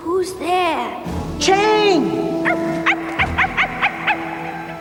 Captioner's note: Snowy barking